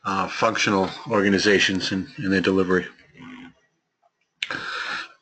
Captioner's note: cough